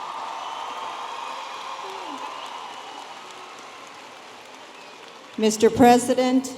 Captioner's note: audience applauding and cheering